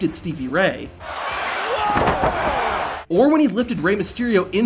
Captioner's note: crowd clamoring